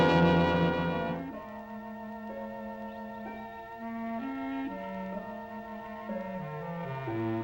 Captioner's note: gentle music; birds chirping